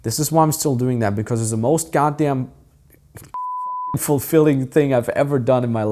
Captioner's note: beep